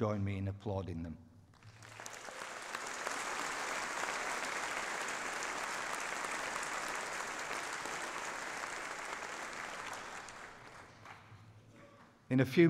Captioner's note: applause